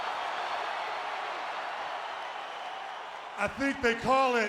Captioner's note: crowd cheering